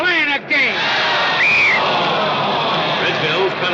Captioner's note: crowd exclaims; whistle blows